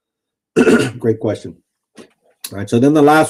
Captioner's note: clears throat